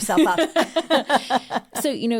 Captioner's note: both Laugh